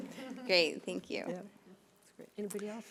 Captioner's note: overlapping chattering